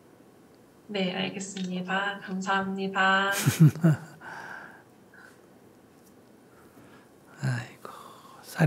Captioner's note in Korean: 스님 웃음